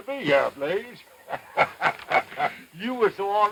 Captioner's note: sheriff laughs